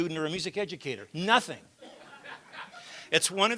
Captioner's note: laughter